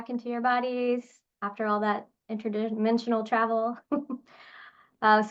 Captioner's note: chuckles